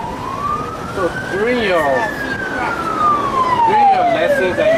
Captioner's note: sirens